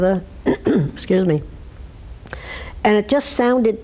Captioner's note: clears her throat